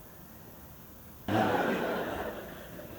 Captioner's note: laughter